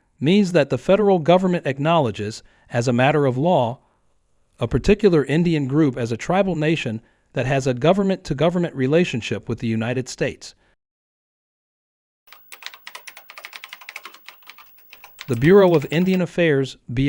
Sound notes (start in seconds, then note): 12.3 keyboard clicks